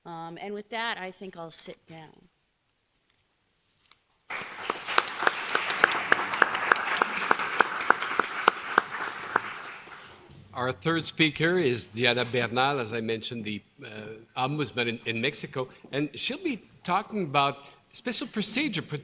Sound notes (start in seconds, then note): 4.3 applause